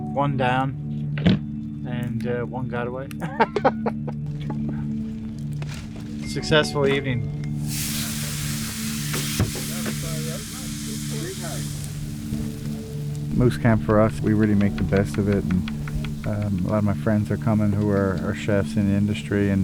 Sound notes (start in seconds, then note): 3.2 laughs; 7.5 meat sizzling; 7.7 group chattering